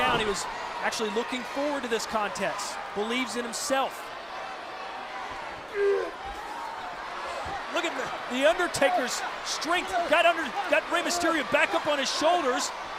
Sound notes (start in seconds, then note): 6.5 crowd cheering